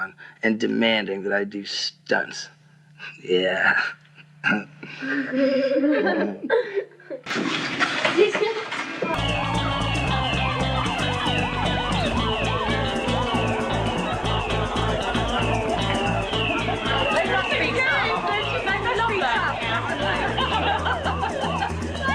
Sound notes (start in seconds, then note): 4.4 laugh; 9.1 fire alarm; 20.1 laughs